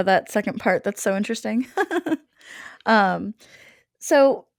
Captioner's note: laughs